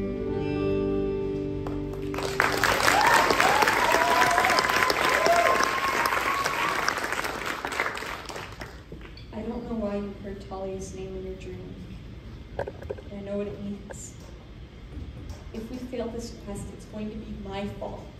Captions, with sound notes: (applause) I don't know why you heard Thalia's name in your dream, but I know what it means. If we fail this quest, it's going to be my fault.